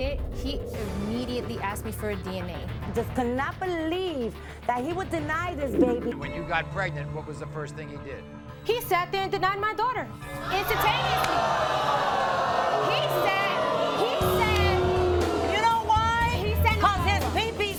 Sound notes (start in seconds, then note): 10.4 audience booing